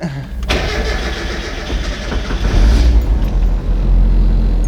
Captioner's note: engine starting